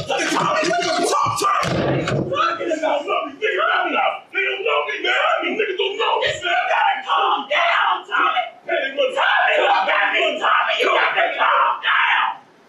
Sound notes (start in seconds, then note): 1.2 door slams; 2.5 indistinct chatter